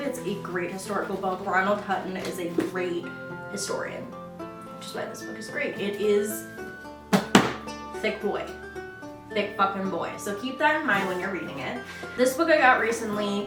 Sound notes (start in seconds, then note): 7.1 smacks